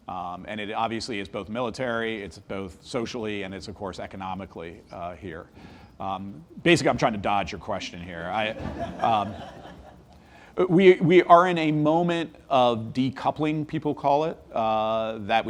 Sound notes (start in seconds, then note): 8.5 audience laughs